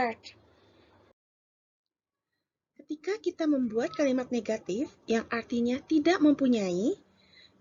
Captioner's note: in Bahasa Indonesia